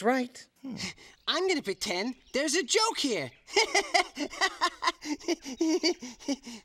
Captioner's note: laughing